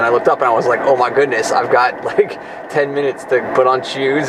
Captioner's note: laughs